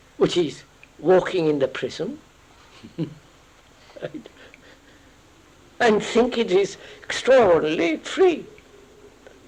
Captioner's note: laughs